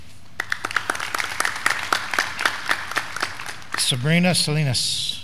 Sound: graduands clapping

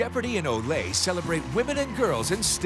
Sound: crowd applauds

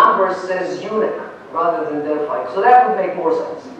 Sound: non-english

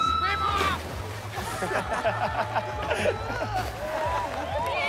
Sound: laughter

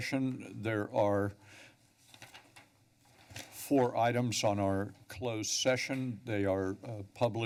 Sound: rustling

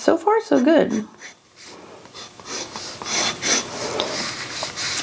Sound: pen scratches

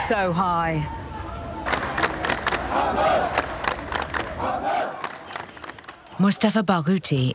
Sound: clapping and chanting

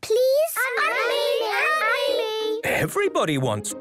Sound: all calling out

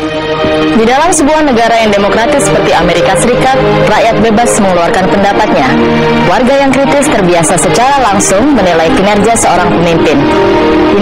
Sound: speaking indonesian

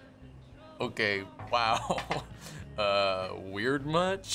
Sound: laughing

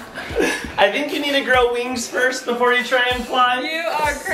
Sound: laughs

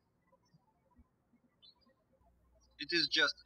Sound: birds chirping

